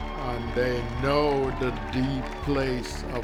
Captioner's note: audience cheering